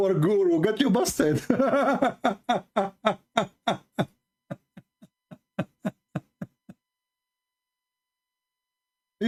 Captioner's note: Ketawa